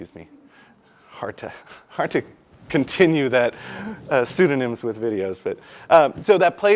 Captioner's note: laugh